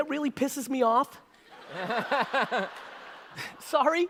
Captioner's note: audience laughter